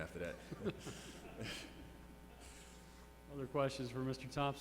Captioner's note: laughter